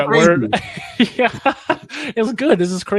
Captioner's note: laughs softly